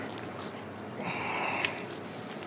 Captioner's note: he breathes loudly